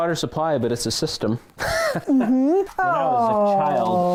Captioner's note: laughter